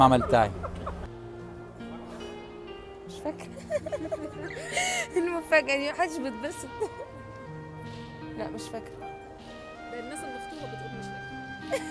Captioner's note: laughs